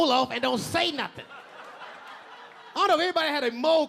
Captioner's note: audience laughing